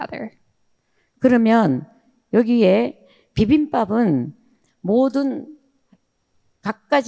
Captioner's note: speaking in foreign language